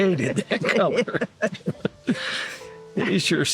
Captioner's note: laughter